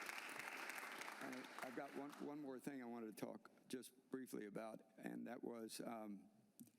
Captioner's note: applause